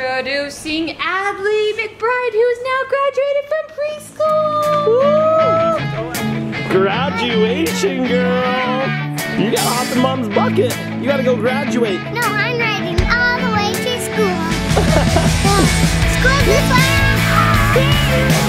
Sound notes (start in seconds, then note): 4.9 cheering; 6.1 upbeat music; 14.7 laughing